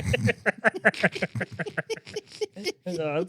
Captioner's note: speaking In Foreign Language